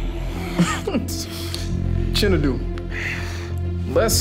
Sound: Mackie laughing

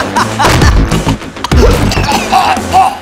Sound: laughing; choking

